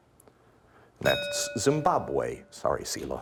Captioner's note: bell ringing